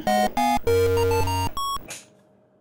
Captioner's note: TV turns off